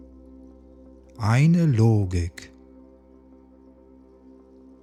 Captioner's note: german